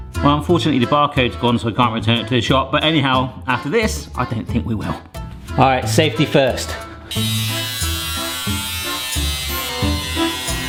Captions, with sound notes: Well unfortunately, the barcode's gone, so I can't return it to the shop, but anyhow, after this, I don't think we will. All right, safety first. (dremel whirring)